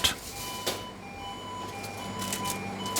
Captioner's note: the machines beep